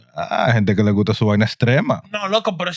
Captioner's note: speaking In Foreign Language